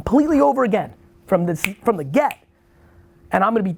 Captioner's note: snaps